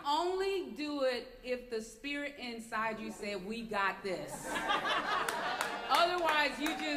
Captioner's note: laughter